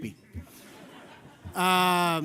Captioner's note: laughter